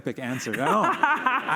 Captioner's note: laughter